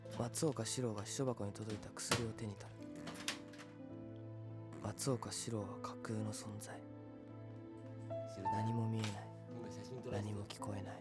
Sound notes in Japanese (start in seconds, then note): 3.1 スタッフの 口を鳴らす音